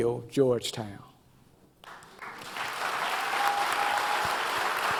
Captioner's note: audience applause